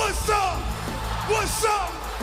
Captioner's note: crowd cheering